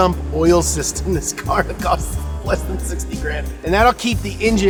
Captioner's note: chuckles